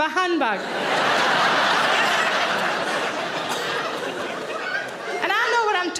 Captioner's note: audience laughing